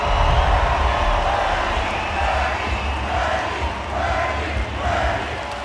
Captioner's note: crowd cheering Bernie